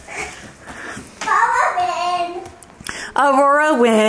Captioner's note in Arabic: يلهث